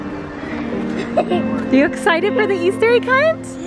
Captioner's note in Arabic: ضحك